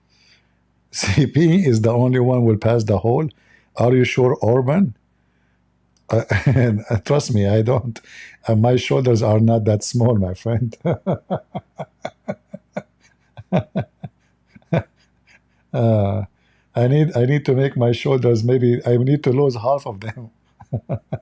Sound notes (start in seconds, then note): 10.6 Ketawa